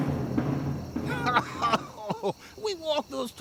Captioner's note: laughing